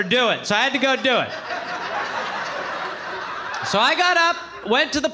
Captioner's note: audience laughing